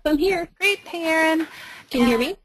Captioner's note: voiceover